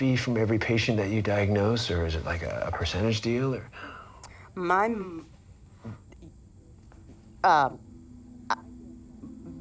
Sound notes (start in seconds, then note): 5.6 stammering